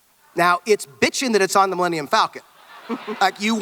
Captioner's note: audience laughter